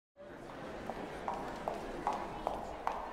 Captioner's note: footsteps